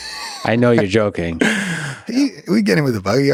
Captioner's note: Craig laughs